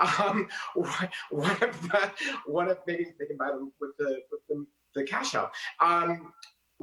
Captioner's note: laughs